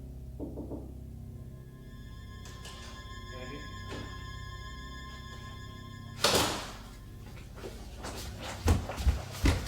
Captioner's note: knocking